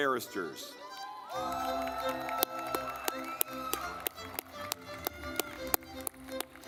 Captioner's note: lively music; audience clapping